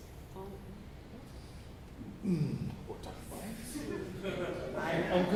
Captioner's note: faintly speaking